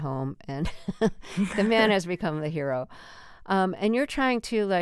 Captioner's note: laughter